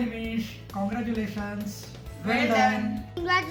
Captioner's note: speaking in foreign language